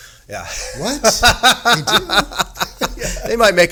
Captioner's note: laughing